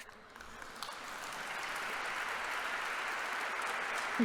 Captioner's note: congregation applauding